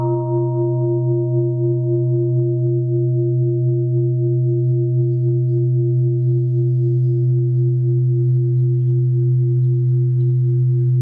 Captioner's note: sound of bell